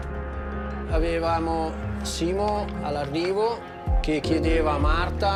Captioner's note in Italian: parla in italiano